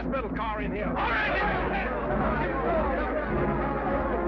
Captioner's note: men shout